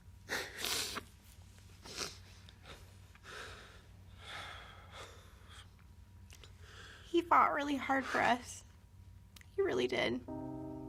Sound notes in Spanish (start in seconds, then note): 0.4 Se suena la nariz; 2.6 Sollozos